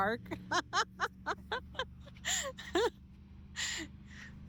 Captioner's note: laughter